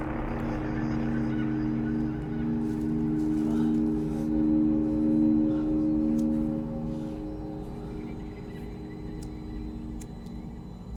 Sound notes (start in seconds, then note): 6.2 lighter clicking